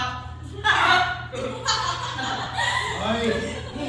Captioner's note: laughing